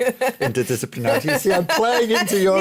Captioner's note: laughter